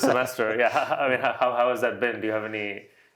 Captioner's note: laughs